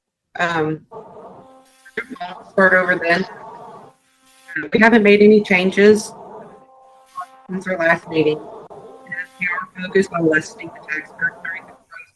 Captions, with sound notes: (speaks faintly) we haven't made any changes since our last meeting. (speaks faintly)